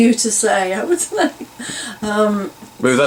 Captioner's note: laughs